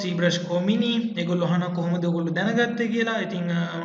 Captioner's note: explaining in Sinhala